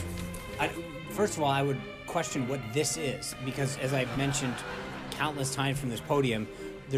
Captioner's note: laugh track